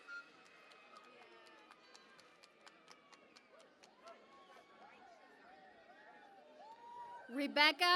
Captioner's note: cheering and Applause